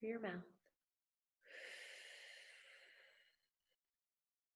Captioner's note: exhales